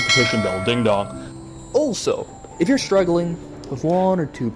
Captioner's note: ding dong